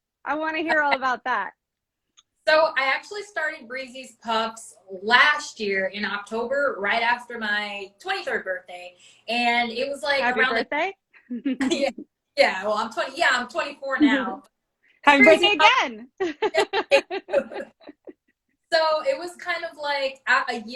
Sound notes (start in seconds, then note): 11.2 both chuckle; 16.2 laughs